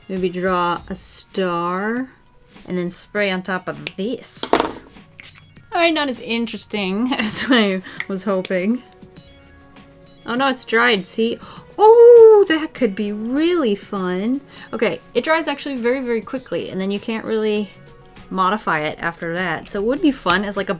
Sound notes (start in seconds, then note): 5.2 sprays